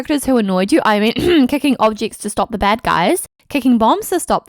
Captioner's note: clears throat